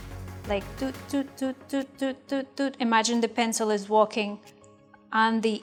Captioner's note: beat boxing